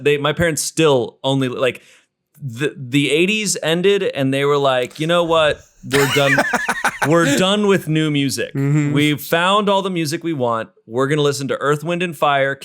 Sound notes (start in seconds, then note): 4.9 laughs